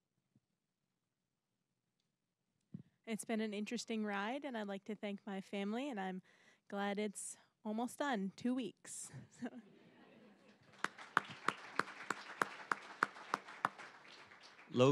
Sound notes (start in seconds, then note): 9.4 audience laughing; 10.5 applause